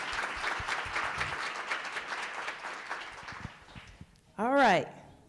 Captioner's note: applause